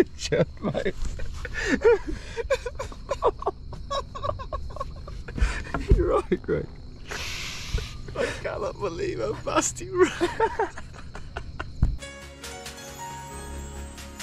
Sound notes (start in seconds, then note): 2.4 both laugh; 10.5 both laugh; 12.0 music